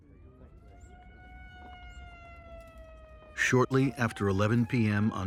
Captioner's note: siren blaring